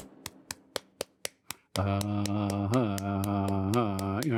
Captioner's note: chanting